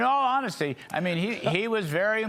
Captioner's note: laughter